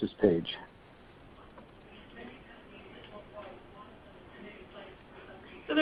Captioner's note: silence